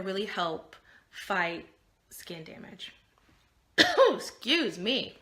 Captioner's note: coughing